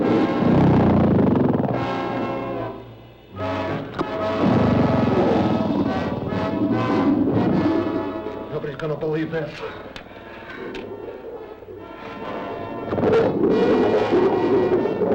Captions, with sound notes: Nobody's gonna believe this. (dramatic music) (animals bellowing)